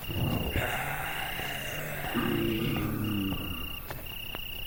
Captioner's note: zombies groaning